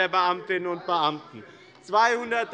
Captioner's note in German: Zurufe von der SPD